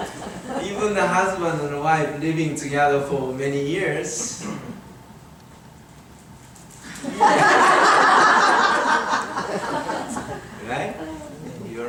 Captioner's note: audience laughing